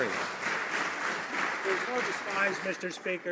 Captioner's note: some Applause